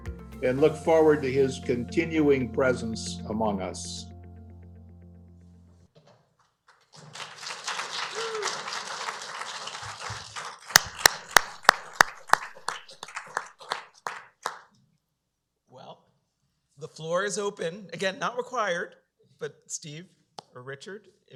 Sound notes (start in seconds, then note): 6.7 applause